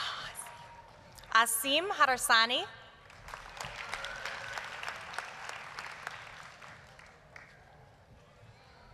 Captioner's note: applause; applause